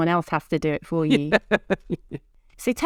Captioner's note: laughs